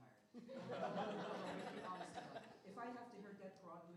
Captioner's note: laughter